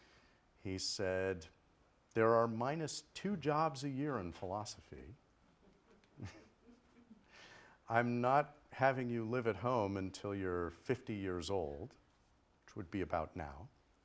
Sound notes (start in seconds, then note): 5.4 chuckles